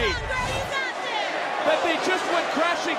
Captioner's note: yelling